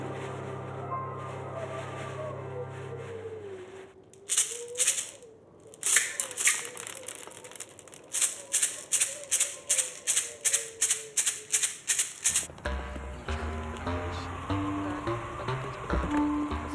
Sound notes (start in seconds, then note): 0.1 bag rustling in wind; 4.1 pills rattling; 5.6 pills falling; 8.6 pills rattling; 13.0 smooth jazz music